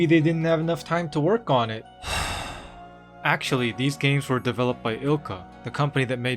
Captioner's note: sigh